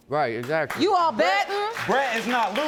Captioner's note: audience applauding